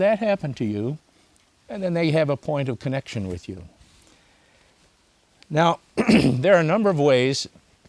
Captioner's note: clears throat